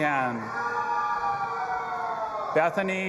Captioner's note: audience applauding and cheering